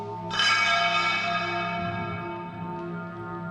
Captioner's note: clanging